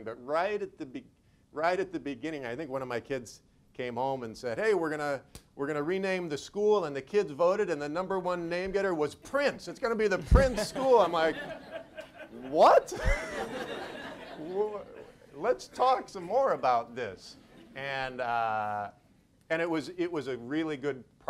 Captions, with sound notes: but right at the beginning, right at the beginning, I think one of my kids came home and said, "Hey, we're gonna rename the school and the kids voted "and the number one name getter was Prince. "It's gonna be the Prince School!" (audience laughs) I'm like, what? (laughs) Let's talk some more about this and it was a really good process for them, I think.